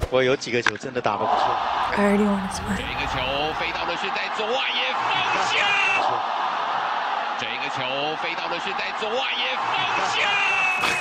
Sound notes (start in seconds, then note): 0.1 spectators gasp; 0.1 sportscaster speaking Mandarin; 3.0 sportscaster speaking animatedly in Mandarin; 7.4 sportscaster speaking animatedly in Mandarin